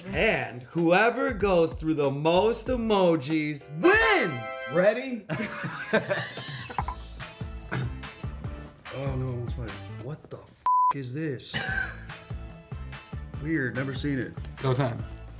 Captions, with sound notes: - And whoever goes through the most emojis wins! - Ready? (laughing) - I don't know which way. What the (beep) is this? Weird, never seen it. - Go time.